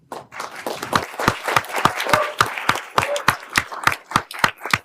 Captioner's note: everyone applauding